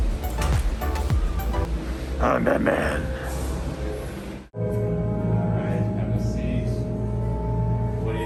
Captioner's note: deep, raspy voice